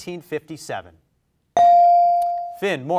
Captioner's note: bell rings